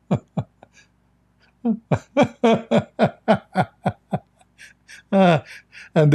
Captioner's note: Ketawa